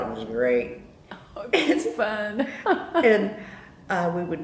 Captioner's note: laughs